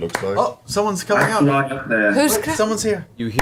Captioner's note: clapping